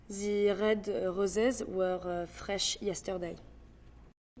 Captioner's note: with French accent